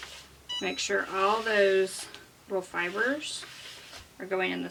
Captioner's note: chimes